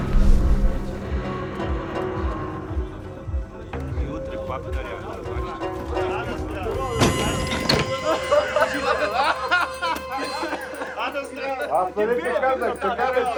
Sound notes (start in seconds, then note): 7.8 laughter; 9.2 spits; 10.7 chattering